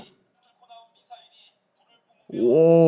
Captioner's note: recorded live TV clip plays